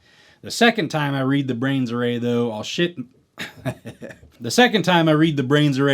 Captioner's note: laugh